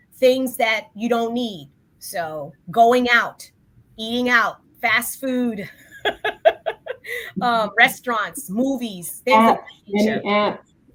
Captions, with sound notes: Things that you don't need. Going out, eating out, fast food, [laughs] restaurants, movies, -things of that nature. -Dating apps.